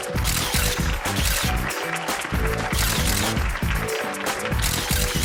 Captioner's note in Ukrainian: оплески